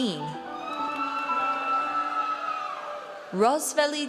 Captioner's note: audience cheers